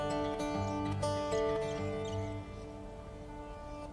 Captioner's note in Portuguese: Pássaros